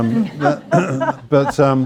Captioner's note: laughter